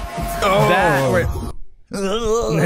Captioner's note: groans